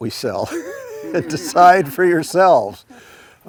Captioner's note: laughs